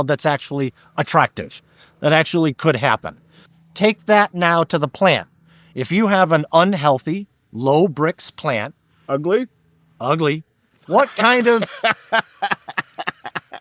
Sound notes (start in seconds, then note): 10.9 laughing